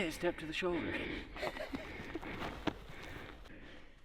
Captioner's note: laughing